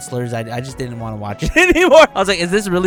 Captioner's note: laughing